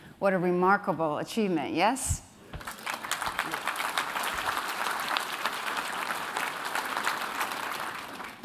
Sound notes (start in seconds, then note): 2.6 applause